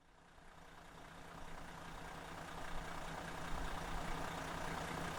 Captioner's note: engine rumbles